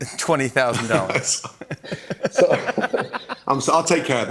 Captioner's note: laughs